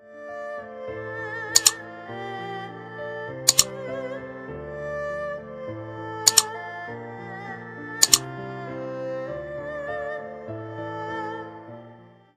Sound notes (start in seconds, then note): 0.3 gentle music; 2.9 keyboard clicking